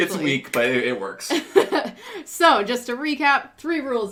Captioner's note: laughs